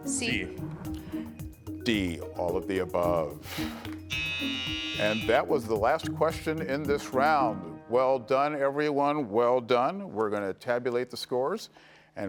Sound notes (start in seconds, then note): 4.0 buzzer buzzing